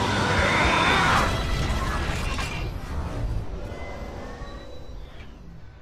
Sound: mechanical Sounds

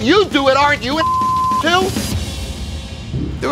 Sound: beep

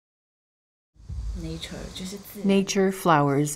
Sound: speaking chinese

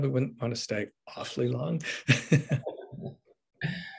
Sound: laughs

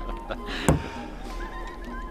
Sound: thud

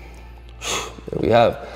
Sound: exhaling

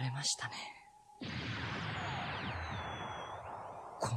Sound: SFX: sound of magic

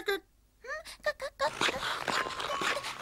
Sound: clucks

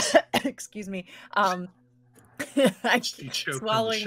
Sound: coughing

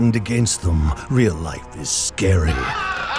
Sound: man screams; audience laughing

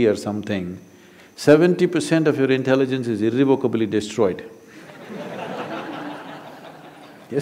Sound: laughter

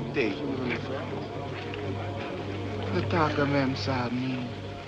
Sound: men Murmuring

